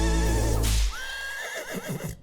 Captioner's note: whip cracking and horse neighing